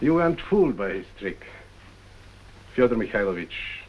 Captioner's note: none